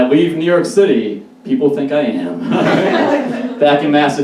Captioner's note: audience Laughs In A Sad Way